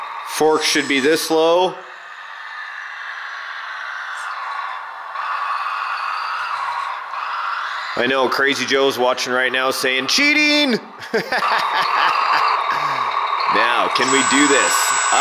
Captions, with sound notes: Fork should be this low. I know, Crazy Joe's watching right now, saying, "Cheating!" (laughs) Now, can we do this?